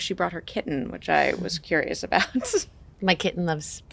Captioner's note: chuckles